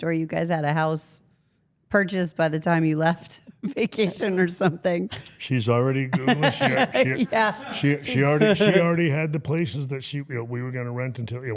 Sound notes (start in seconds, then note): 6.1 interviewer laughing